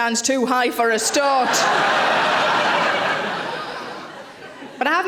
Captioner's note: audience laughing